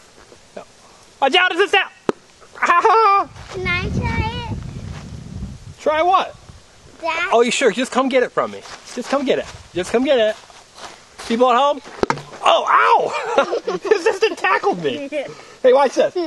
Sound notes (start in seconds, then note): 5.3 voiceover